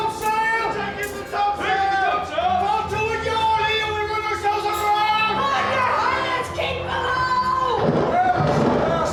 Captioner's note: COMPANY yelling; shouting